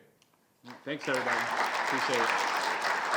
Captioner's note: crowd applauding